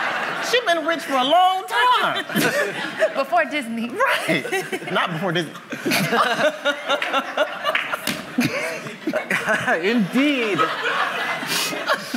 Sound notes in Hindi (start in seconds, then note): 2.0 laughter; 5.5 हँसी